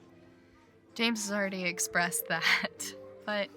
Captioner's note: laughs